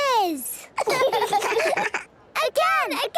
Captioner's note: children laughing